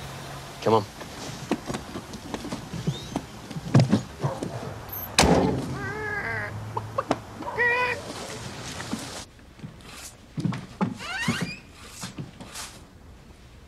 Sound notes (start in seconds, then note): 6.7 clucks like a chicken; 10.9 door squeaks